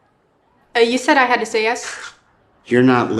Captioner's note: Mark scoffs